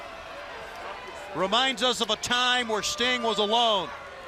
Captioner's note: crowd cheering